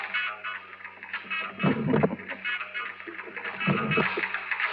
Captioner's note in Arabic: جون يضحك ويرفع الصوت